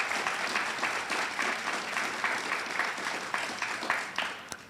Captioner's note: audience applauds